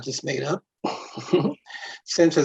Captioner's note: chuckles